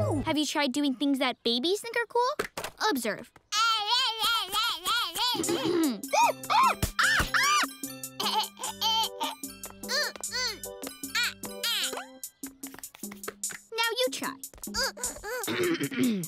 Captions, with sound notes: Have you tried doing things that babies think are cool? Observe. [babbling] Ahem. [squawking] [laughing] Ooh ooh ah ah! Now you try. Ahem.